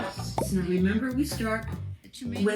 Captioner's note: bubble popping